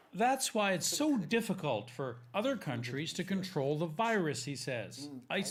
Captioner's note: speaking foreign language